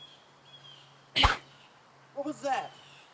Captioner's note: stick whooshes